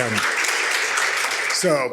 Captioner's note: audience clapping